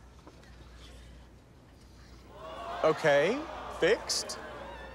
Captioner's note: audience gasps, groans